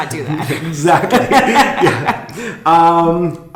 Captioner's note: laughing